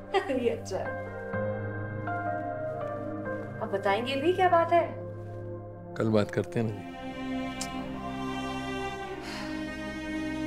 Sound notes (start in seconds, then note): 7.5 tongue clicking; 9.2 sighs